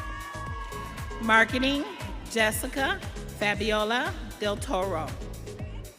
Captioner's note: audience cheering